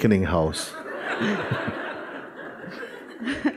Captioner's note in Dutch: gelach